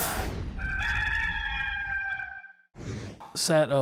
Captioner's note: rooster crows